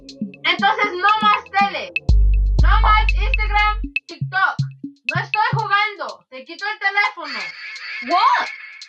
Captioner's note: in Spanglish; scream